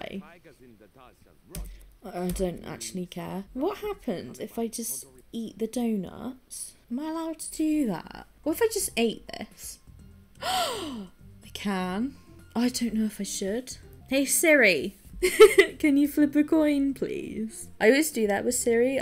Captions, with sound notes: I'm gonna be all sly. Oh. I don't actually care. What happens if I just eat the donuts? Am I allowed to do that? What if I just ate this? [gasps] I can. Oh, I don't know if I should. Hey, Siri! [laughing] Can you flip a coin, please? I always do that with Siri.